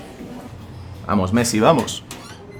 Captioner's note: in spanish